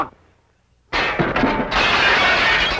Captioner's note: crash